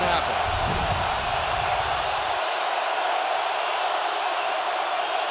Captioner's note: crowd roaring